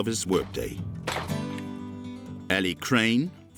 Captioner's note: gun firing